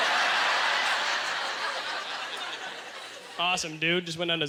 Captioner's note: audience laughter